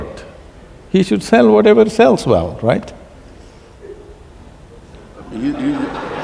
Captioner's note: laughter/Applause